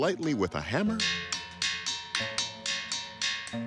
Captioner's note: metallic pinging